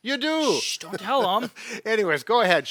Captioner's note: hissing